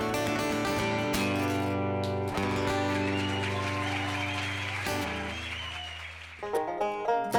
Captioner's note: applause